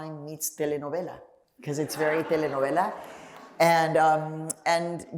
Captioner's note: laughter